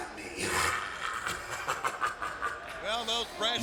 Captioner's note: laughs